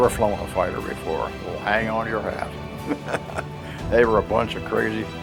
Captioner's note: laughs